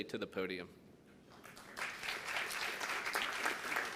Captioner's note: applause